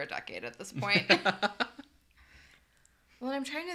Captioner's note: laughs